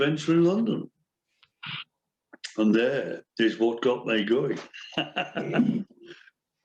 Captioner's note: laughs